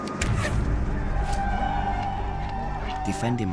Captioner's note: Indians ululating